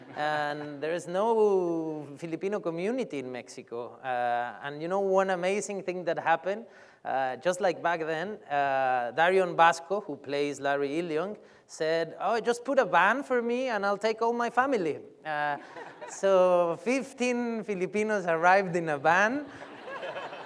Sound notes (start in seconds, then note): 15.6 laughs; 19.4 laughter